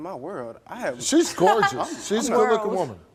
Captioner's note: laughs